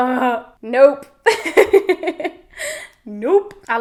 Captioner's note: laughing